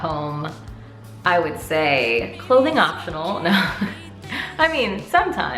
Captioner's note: laughs